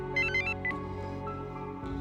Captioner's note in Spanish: Suena el celular